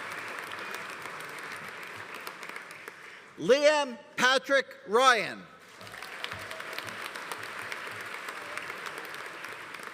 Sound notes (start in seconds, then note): 5.7 audience applauding